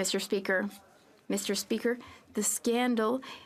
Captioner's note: speaking French